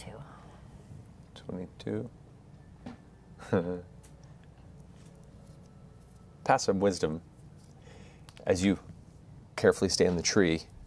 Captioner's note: laughs